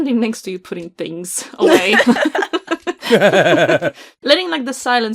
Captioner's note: laughter